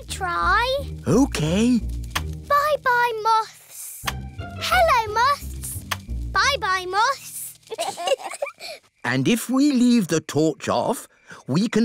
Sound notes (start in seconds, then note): 7.6 both giggle